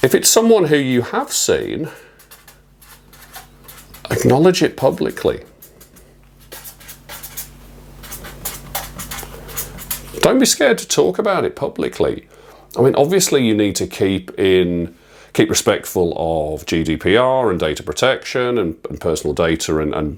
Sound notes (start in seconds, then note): 6.3 marker pen scribbling